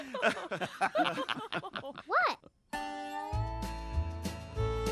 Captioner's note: laughing